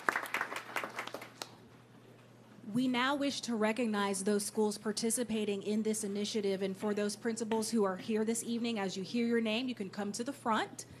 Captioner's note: applause